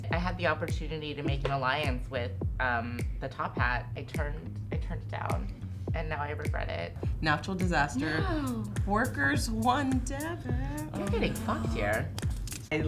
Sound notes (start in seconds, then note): 8.6 gasps